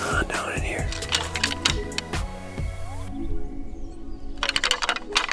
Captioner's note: antlers rattling